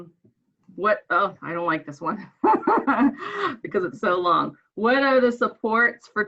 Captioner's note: laughs